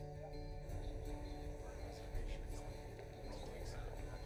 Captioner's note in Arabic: ثرثرة غير واضحة